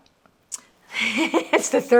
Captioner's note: laughing